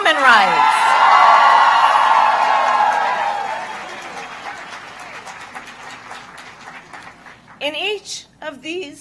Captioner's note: applause